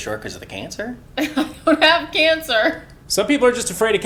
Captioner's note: laughing